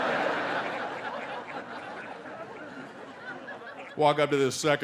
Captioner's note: audience laughing